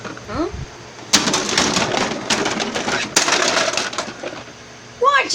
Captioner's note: cars Crashing